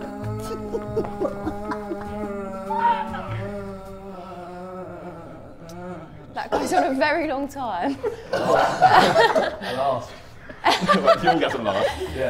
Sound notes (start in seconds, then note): 0.0 laughs; 7.7 Sidemen laughing; 10.6 laughs